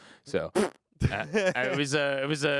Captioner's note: laughing